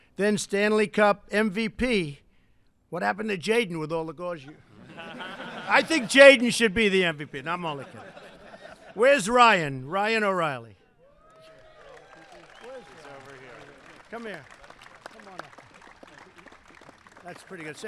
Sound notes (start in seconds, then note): 4.4 laughter; 11.2 applause